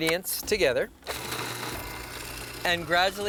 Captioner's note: processor whirs